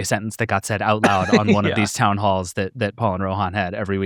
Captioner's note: chuckling